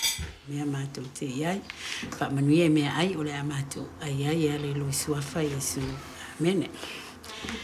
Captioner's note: saying grace in Māori